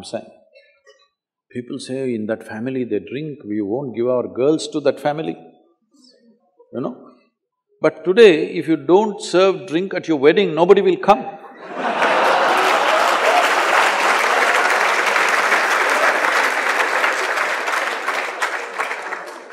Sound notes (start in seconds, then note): 15.2 laughter/Applause